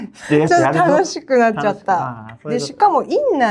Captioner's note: laughs